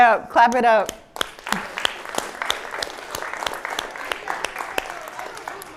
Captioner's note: applause